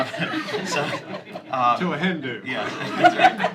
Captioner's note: laughter